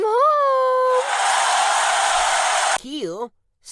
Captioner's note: hostages cheer